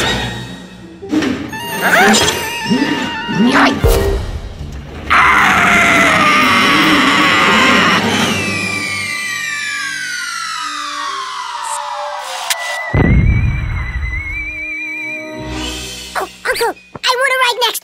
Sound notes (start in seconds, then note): 5.1 screaming; 13.0 deep thud